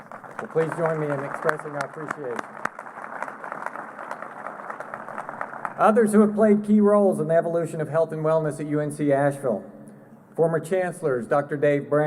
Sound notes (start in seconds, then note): 1.9 applause